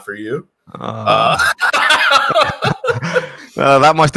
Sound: laughs

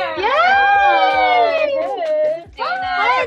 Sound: people cheering

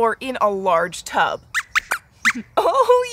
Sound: squeaks squeaks

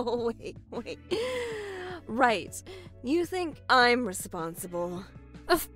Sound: laughs

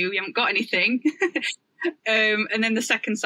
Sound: laughs

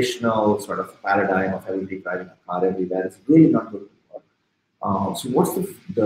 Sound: speaking softly

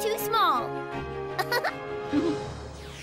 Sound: chuckles

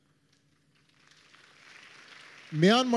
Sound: applause

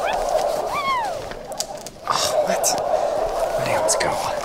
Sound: crowd chattering

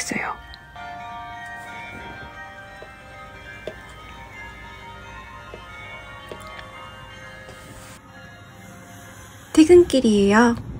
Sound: bell rings

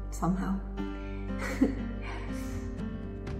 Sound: laughs

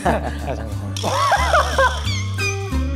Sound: burst out in laughter

